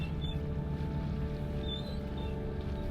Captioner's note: rigging noises audible